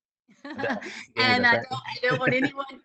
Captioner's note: chuckles